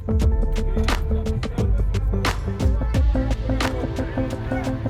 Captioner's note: background chatter and shouting